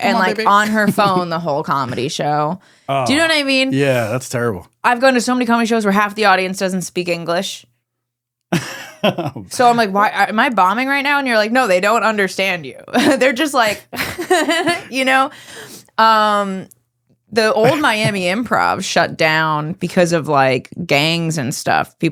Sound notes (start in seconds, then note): 8.5 laughing